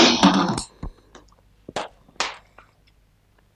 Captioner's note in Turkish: Sessizlik